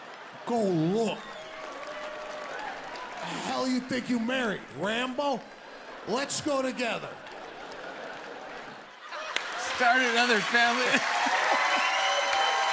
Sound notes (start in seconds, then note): 1.4 laughter and applause; 11.0 cheers and applause